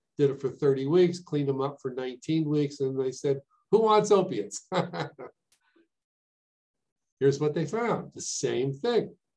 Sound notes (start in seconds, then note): 4.6 laughs